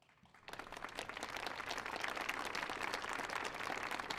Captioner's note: audience applauds